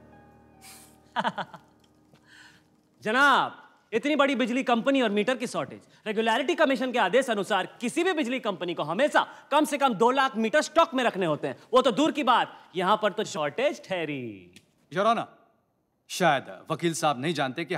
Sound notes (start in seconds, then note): 1.0 Chuckles; 1.1 Laughs